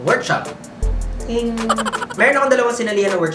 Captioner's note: manually produced sound effect